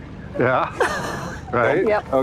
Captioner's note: laughs